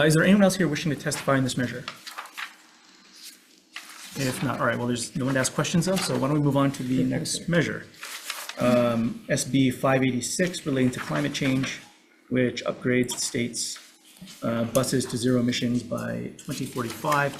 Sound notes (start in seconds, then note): none